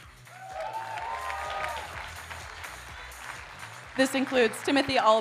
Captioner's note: audience cheering and applauding